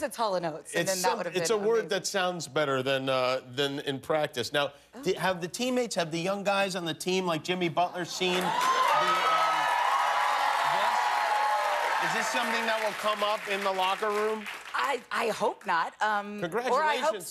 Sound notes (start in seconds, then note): 8.1 cheers and applause